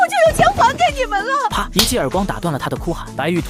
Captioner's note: slap!